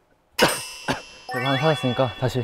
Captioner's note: cough